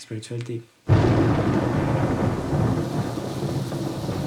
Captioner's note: tonnerre